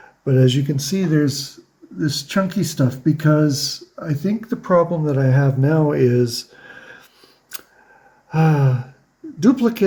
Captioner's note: sighs